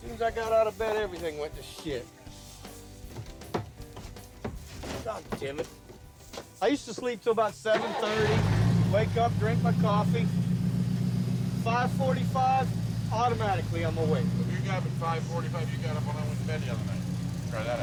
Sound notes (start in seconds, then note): 3.0 tool thunking